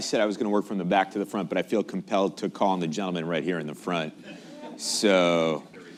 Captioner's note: laughter